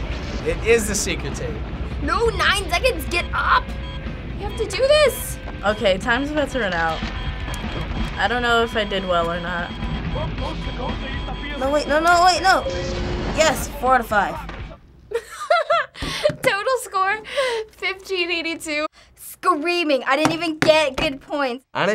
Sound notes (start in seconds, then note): 7.1 timer beeping; 15.1 laughs